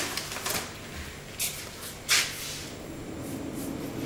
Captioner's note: rustling, whirring of devices